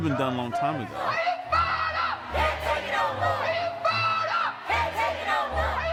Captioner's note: chanting